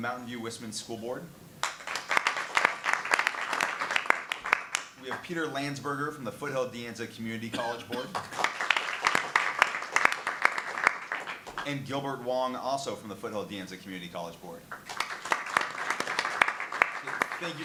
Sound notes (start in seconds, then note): 1.6 clapping; 8.1 clapping; 14.8 clapping